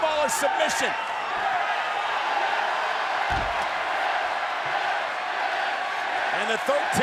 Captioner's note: applause